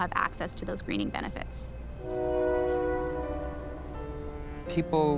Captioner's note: train horn blows